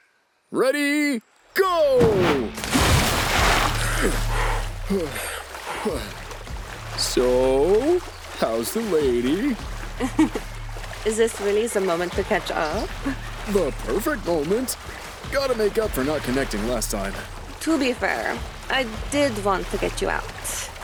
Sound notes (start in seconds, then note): 3.8 grunting; 9.8 laughs